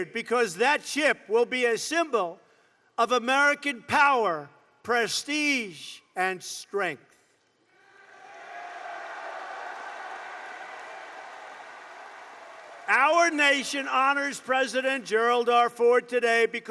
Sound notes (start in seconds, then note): 8.3 applause